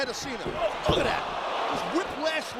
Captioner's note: body thudding; crowd cheering